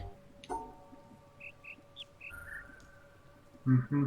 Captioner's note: bird chirps five notes